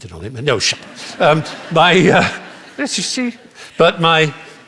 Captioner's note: laughter